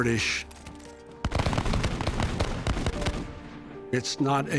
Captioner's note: gunfire popping